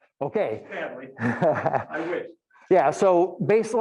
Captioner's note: laughing